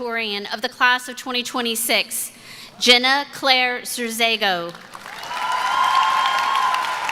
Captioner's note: applause and cheering